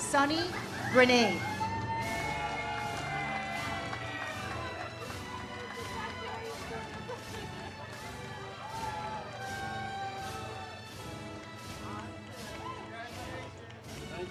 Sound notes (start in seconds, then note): 2.7 audience cheers; 9.0 ceremonial music